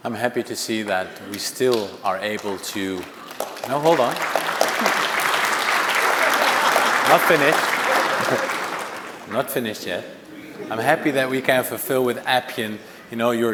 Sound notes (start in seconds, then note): 5.6 audience applauding; 9.7 audience chuckling